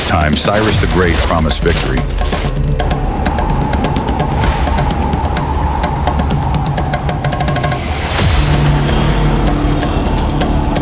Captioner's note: grimly